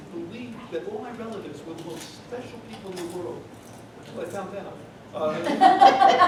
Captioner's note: laughter